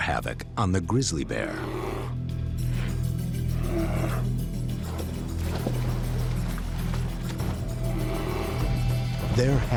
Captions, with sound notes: wreak particular havoc on the grizzly bear. [growls] [water splashes]